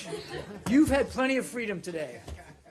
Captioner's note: laughter